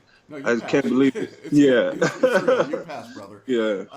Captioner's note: laughs